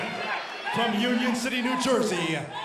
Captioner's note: crowd cheering